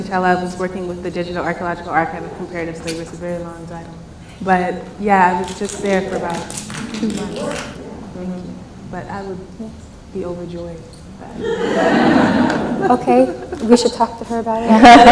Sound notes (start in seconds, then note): 7.1 clapping; 11.2 laughs